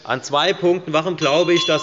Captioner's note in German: Unruhe – Glockenzeichen des Präsidenten